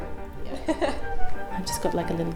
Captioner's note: laughs